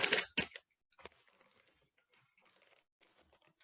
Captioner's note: paper ripping